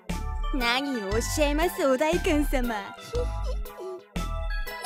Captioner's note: mischievous chuckle